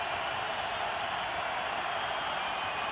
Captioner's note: crowd cheering